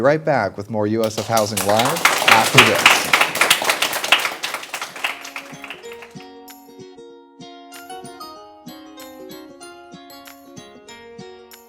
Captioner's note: applause